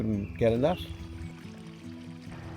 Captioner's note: stream burbling